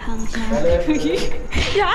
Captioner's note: chuckles